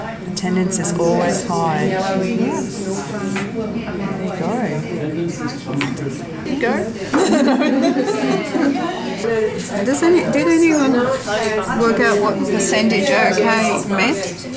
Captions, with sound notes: Attendance is always high. [participant chatter] Did anyone work out what the percentage OK meant?